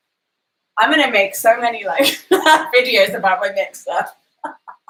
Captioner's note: laughs